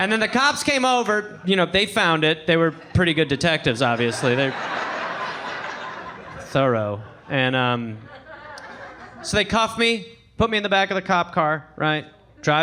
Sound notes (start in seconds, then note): 4.6 audience laughing